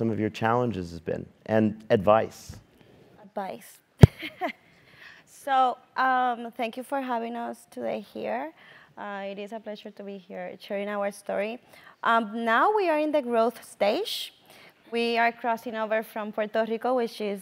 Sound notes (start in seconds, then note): 4.5 laugh